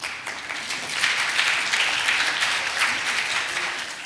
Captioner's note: audience clapping